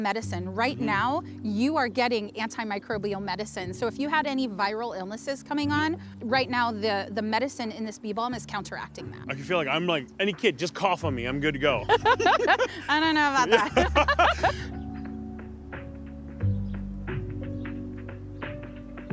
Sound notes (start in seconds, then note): 11.8 both laugh; 16.2 gentle music